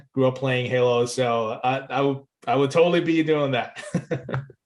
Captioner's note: laughs